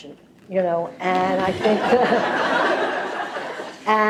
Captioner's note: laughter